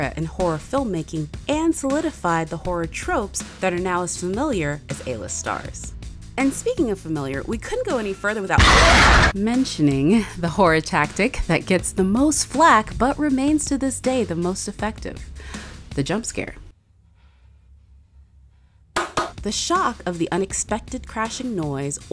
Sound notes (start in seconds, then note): 8.5 creature shrieks; 19.0 person claps